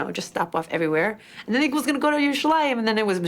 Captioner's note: speaks in foreign language